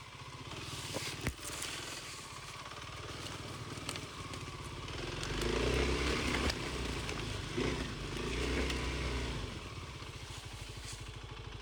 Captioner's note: motor rumbling